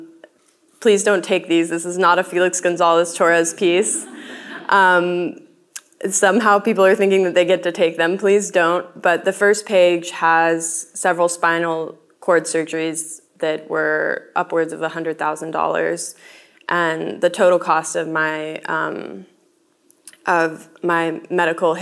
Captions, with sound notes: please don't take these. This is not a Felix Gonzalez-Torres piece. (audience laughing) Somehow people are thinking that they get to take them, please don't. But the first page has several spinal cord surgeries that were upwards of $100,000. And the total cost of my medical history